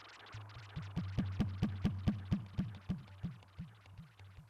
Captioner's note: finger taps